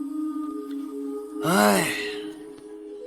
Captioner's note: sigh